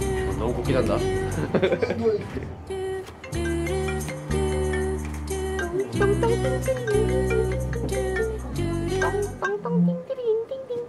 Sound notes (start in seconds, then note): 1.3 laughs; 3.1 Samsung alarm jingle; 5.8 sings the jingle